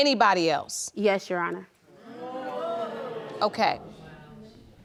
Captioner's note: crowd jeers